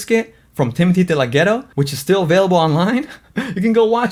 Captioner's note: laughs